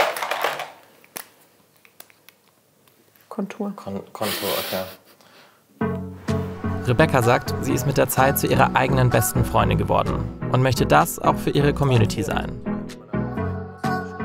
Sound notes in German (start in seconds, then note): 4.2 schmunzelt; 12.8 Dynamische Musik